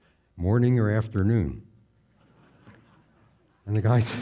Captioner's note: audience laughing